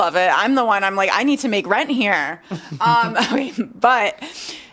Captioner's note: laughs